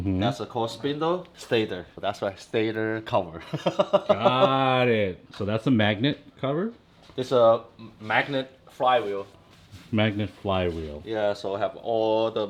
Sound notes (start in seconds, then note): 3.5 laughing